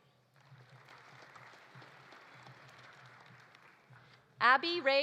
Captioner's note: audience applauding